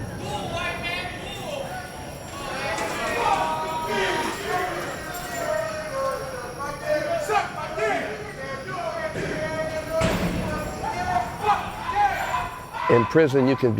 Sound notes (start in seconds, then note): 0.0 heavy chains, doors shutting; 2.2 bars slamming, chains, laughter, chatter